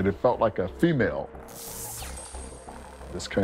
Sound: crackling

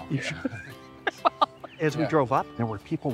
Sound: laughing

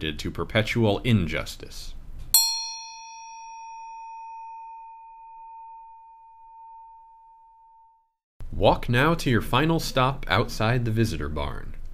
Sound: A bell sounds

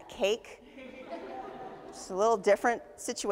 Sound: audience laughs

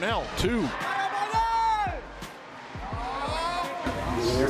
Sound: cheering

